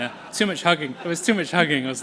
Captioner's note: laughter